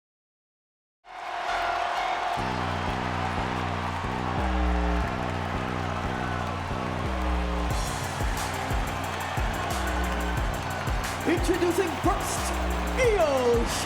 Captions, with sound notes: (crowd cheering) (deep bass music) Introducing first, Io Shirai!